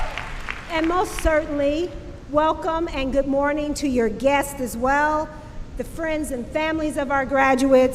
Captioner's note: applause